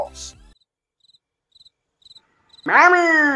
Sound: silence

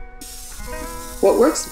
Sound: spray painter sizzles

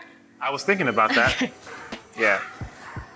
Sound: laughs

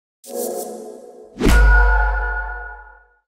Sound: swishing clicky noise that signifies quality entertainment is on its way

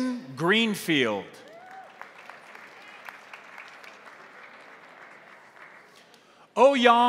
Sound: crowd cheering; crowd applauding

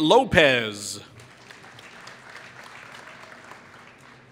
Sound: applause

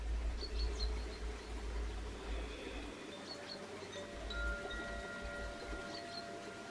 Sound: water lapping; chimes tinkling

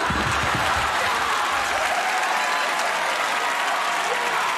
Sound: crowd cheering

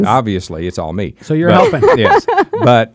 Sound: laughs

